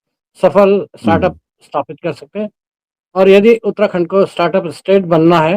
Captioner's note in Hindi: गला साफ़ करने की आवाज़